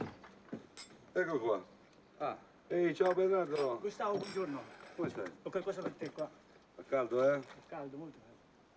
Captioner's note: Italian